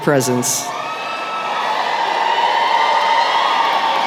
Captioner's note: cheering